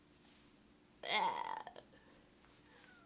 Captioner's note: makes frustrated sound